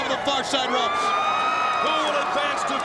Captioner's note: audience cheering